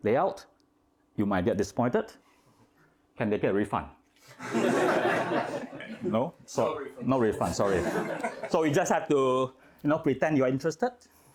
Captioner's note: laughing